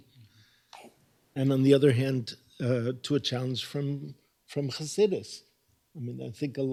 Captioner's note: hebrew